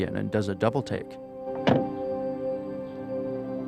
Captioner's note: car door slams